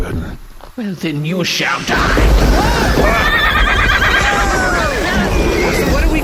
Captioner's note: growling